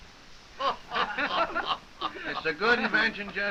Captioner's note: soldiers laughing